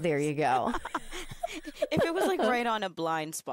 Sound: both laughing

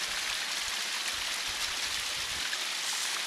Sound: running water intensifies more

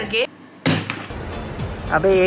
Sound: smack

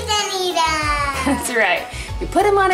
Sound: laughs

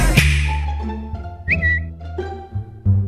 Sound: tweet

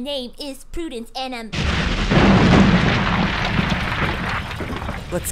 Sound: explosion

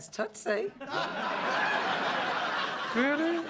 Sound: laughter

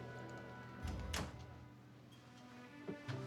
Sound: door shuts

